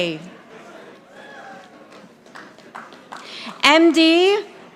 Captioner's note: audience applauding